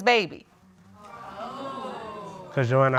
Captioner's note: audience exclaims